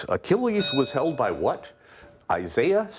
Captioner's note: bell ringing